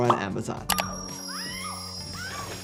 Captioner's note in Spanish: música de suspenso; personaje gritando